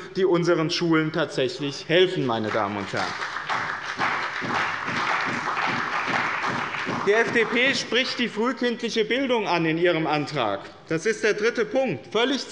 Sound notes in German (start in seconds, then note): 2.2 Beifall bei dem BÜNDNIS 90/DIE GRÜNEN und der CDU